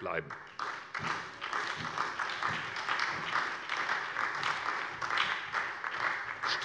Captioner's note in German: Beifall bei der SPD